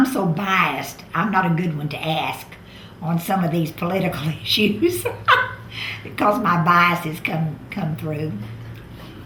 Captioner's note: laughs